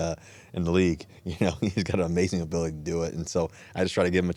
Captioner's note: chuckles